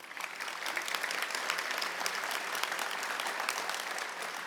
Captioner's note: audience clapping